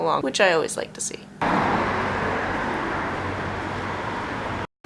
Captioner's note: street noises